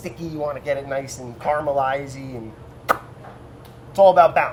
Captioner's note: puckering mouth